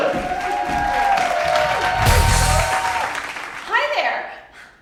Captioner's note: audience cheering